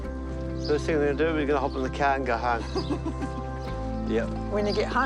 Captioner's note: chuckles